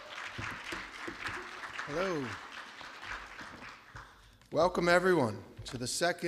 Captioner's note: applause